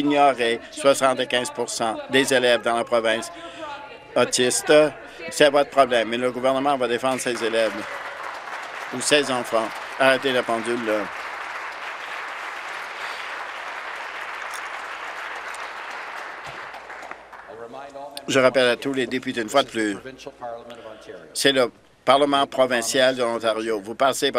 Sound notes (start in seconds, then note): 10.0 voice trailing; 11.1 applause